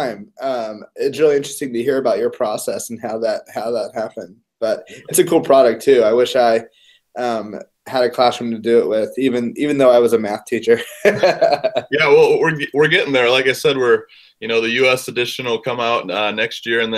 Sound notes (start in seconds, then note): 10.8 laugh